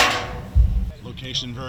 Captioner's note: fireworks setup sounds